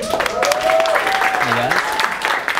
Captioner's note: applause